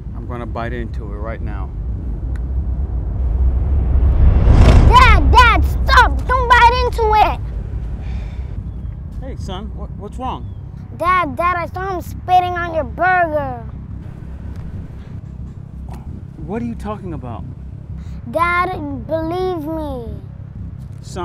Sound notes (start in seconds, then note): 2.2 suspenseful music; 8.1 waiter sighs; 15.0 waiter sighs